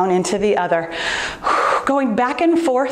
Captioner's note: softly exhaling